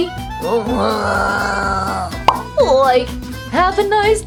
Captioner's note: Frankie grunts